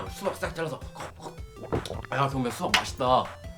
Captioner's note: swallowing seeds